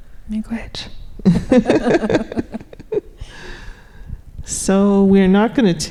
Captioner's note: laughing